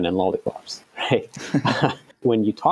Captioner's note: laughter